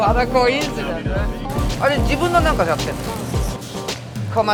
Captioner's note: Speaks Japanese